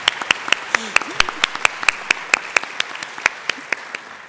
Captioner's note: applause